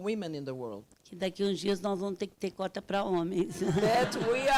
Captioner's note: speaking Portuguese